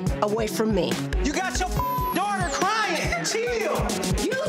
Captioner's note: beep